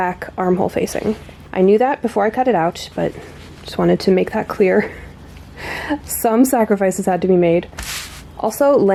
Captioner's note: laughs